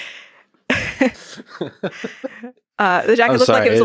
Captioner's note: both laughing